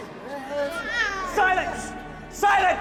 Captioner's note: people mumbling